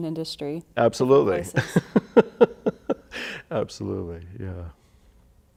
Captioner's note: laughter